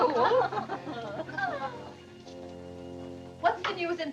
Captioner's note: laughter